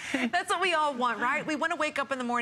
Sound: laughter

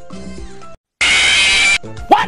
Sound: FNAF Scream

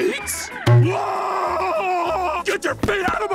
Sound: screaming

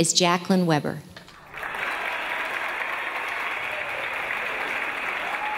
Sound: audience applause

